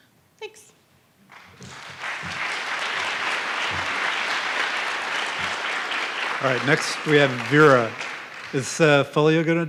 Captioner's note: applause